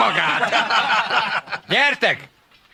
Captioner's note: laughing